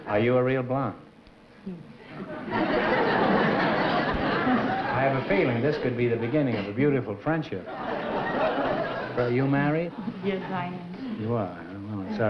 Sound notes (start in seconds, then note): 2.1 laughter